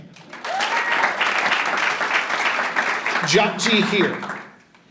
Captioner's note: audience applauding and cheering